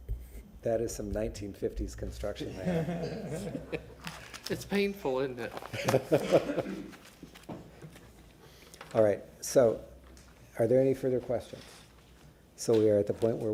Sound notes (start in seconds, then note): 5.7 laughter